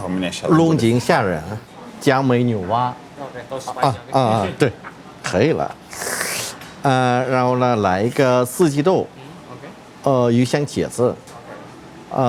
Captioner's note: speaking Chinese